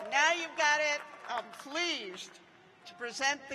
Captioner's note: cheers and applause